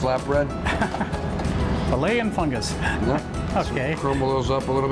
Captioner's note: laughing